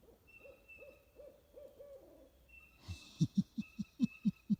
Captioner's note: owl hooting; chuckling